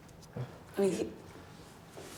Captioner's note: whispers